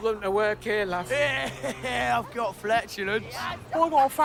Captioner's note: laughs